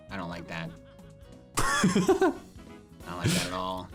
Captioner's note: laughs